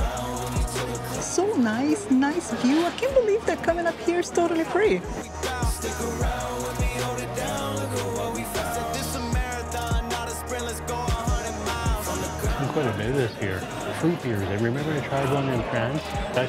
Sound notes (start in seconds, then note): none